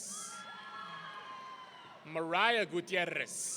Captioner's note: audience cheering